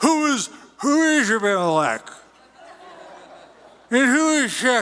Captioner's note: slurring